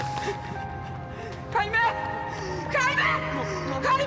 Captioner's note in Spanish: Sollozos